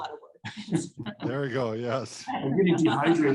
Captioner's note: both laugh